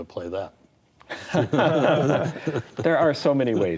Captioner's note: all laugh